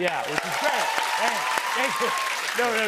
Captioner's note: cheers and applause